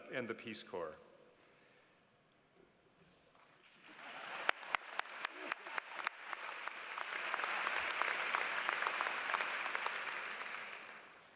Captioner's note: applause